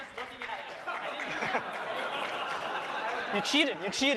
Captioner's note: laughter